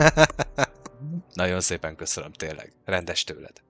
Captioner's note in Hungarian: nevetés